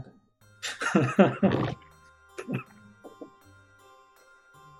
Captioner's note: laughs